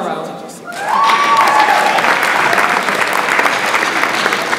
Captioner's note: audience applauds